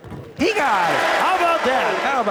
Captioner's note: crowd cheering